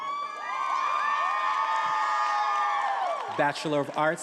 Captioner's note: attendees applauding and cheering